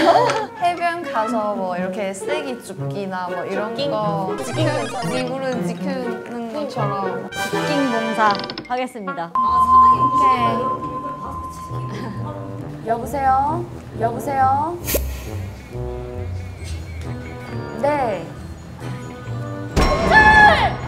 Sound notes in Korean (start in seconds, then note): 9.4 전화 옴